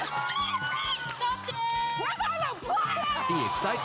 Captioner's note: cheering